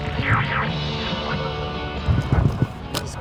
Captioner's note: energetic music continues; device squealing